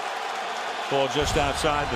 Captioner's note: cheering